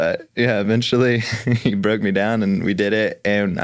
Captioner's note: chuckles